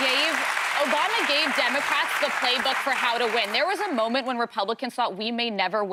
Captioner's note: applause